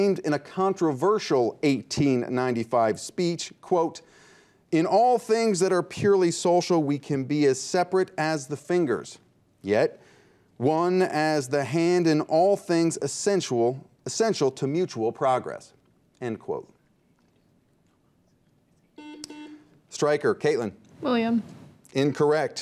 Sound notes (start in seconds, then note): 19.0 buzzer beeps